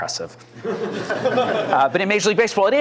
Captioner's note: laughter